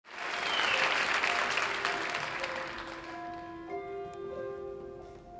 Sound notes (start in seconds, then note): 0.0 audience applauds; 0.2 gentle music